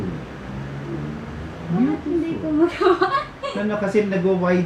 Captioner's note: laughing